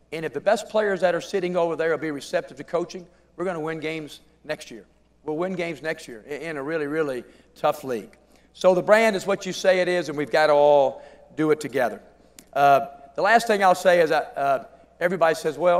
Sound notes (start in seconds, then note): none